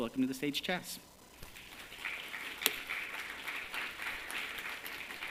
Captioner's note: applause